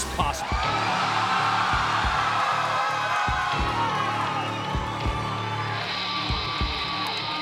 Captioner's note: crowd cheers; eerie music plays